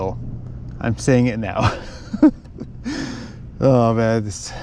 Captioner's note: laughs